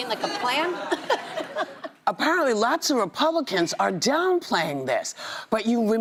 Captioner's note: laughter